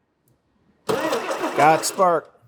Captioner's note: engine turns